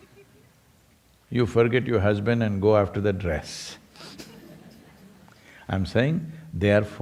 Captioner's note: laughs